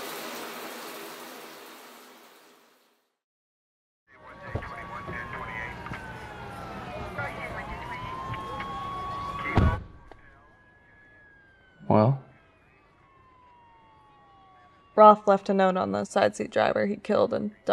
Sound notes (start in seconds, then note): 0.0 shower running; 3.6 police sirens; 4.1 police chatter; 4.6 car door opens; 9.5 car door shuts